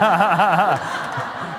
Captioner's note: laughter